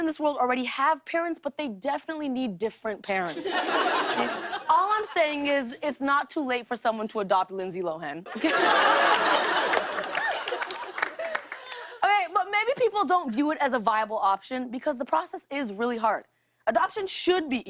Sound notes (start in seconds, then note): 3.3 laughter; 8.3 laughter and applause